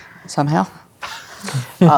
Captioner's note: laughs